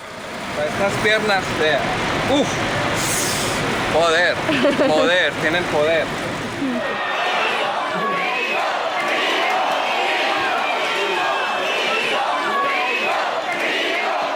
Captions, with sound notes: The legs. Power. Power. They have power. [crowd] [chanting] Rigo! Rigo! Rigo! Rigo! Rigo! Rigo!